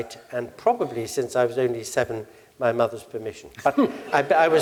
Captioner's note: laugh